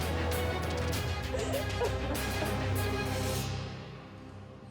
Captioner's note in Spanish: sollozos